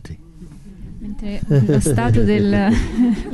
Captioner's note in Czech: smích